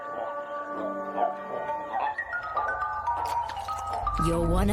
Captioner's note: mysterious music; toad croaking